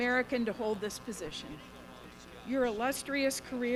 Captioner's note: none